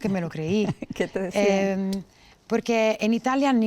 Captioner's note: laughter